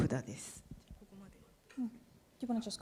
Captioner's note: speaking japanese